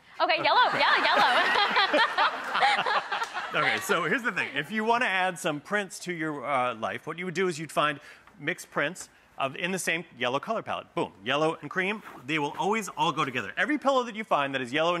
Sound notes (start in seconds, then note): 0.4 laughs; 1.8 audience laughs